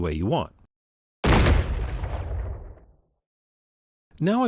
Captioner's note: explosion Sound Plays